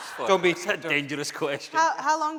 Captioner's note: voice muffled